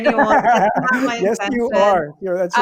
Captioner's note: laughs